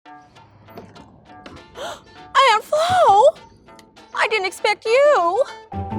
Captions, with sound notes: (upbeat music) (gasps) - Aunt Flo? I didn't expect you.